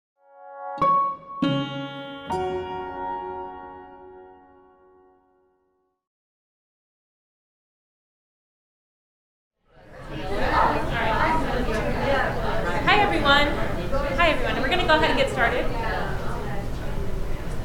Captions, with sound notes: (soft music) (audience chattering) - Hi, everyone. Hi, everyone, we're gonna go ahead and get started.